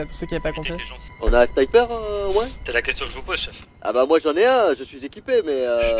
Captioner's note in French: radio